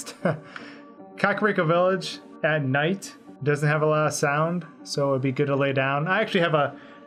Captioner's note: laughs